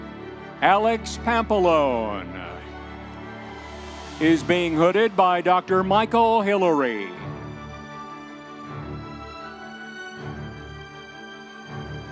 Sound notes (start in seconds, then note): 2.5 audience members cheering; 7.9 soft dramatic orchestral music